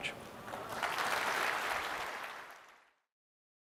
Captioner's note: applause